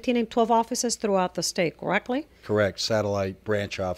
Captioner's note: Hablando ingl\s